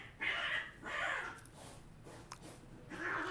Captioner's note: cats fighting